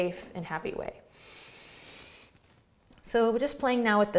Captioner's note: inhales deeply